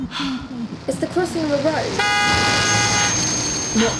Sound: car horn

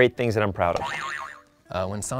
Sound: boing

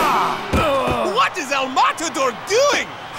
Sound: grunting

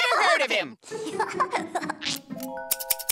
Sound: laughing

